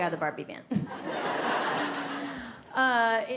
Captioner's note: audience laughs